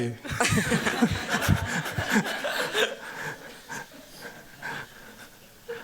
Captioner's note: laughter